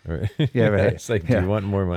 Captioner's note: laughs